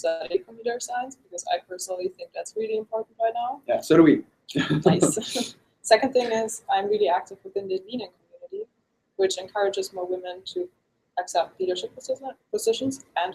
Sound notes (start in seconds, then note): 4.6 laughs